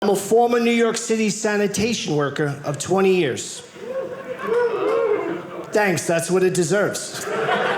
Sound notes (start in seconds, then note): 3.8 audience cheering